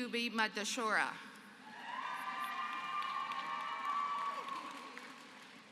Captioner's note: applause